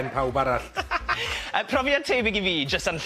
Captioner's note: laughter